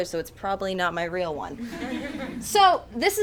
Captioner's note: audience chuckles